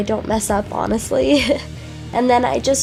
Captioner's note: laughs